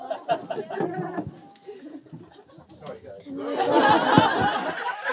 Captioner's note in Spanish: risas